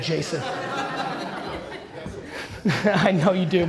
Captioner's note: audience laughter